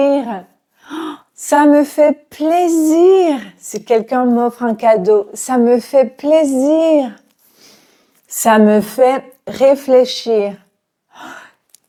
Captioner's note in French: soupir